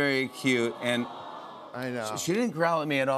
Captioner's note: audience "Awws"